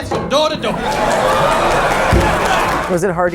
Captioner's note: crowd cheers